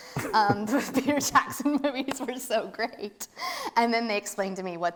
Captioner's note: laughs